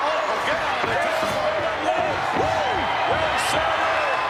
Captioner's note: crowd cheering